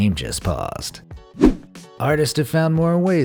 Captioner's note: air whooshing